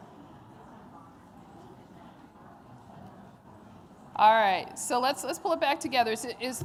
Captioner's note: audience chatter